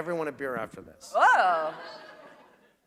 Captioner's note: laughter